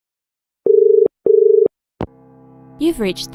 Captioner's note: dial tone